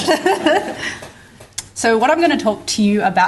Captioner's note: laughter